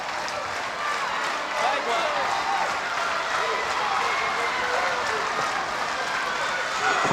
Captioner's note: presenter speaking faintly off mic